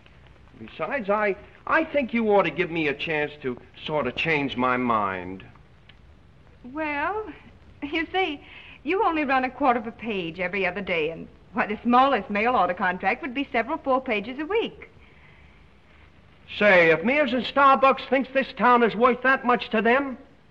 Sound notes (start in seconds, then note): none